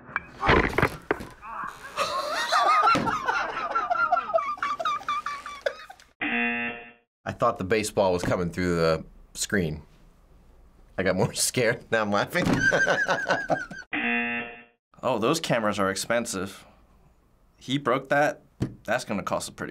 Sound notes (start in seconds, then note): 4.2 laughs; 6.2 buzzer; 12.6 laughs; 13.9 buzzer